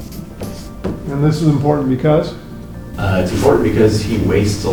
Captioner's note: tapping board